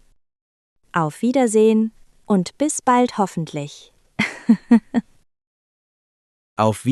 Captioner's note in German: lacht